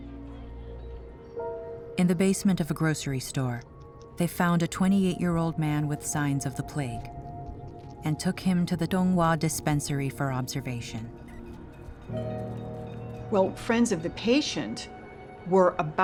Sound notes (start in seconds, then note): none